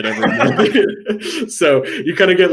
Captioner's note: both laughing